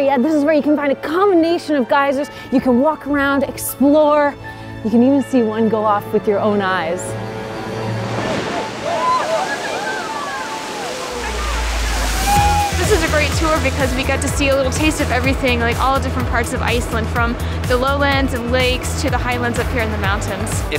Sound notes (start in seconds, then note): 7.6 splashing; 8.4 cheering